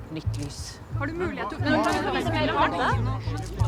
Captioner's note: reporters clamouring